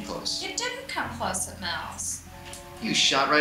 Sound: voiceover

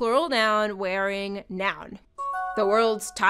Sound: new message chime

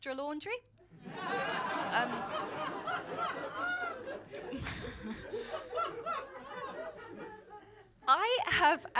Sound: laughter

